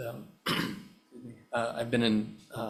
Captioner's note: clearing throat